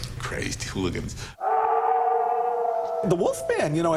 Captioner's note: howling